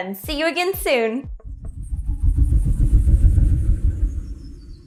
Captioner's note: logo whirring